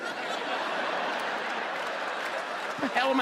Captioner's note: audience laughs